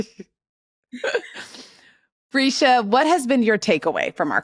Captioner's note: laughs